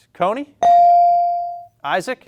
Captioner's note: buzzer chimes